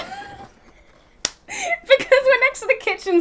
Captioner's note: both laughing